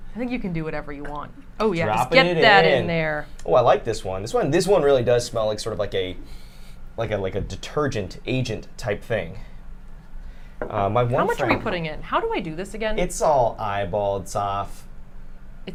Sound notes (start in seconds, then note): 6.2 sniffs